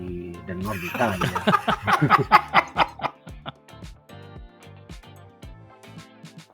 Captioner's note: laughs